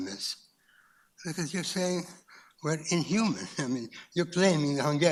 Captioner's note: chuckles